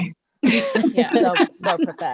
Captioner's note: laughs